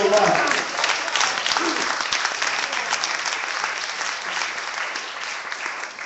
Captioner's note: clapping